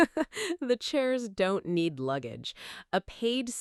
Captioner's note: chuckles